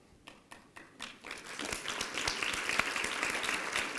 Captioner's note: applause